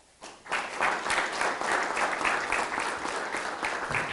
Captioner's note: audience clapping